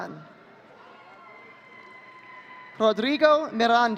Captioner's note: audience cheering